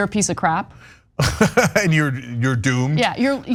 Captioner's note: laugh